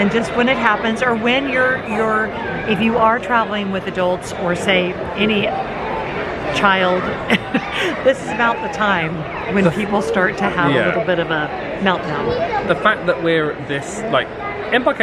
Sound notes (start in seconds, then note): 7.0 chuckles